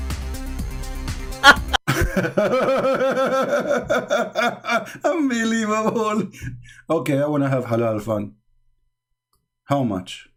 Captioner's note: Ketawa